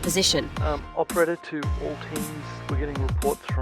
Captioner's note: voiceover